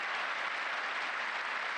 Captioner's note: applause